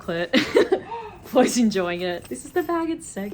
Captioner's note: laughs